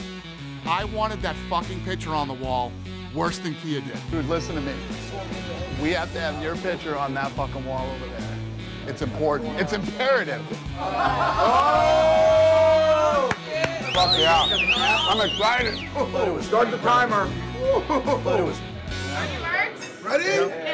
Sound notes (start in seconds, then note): 10.8 men laughing; 13.7 whistling; 17.5 laughing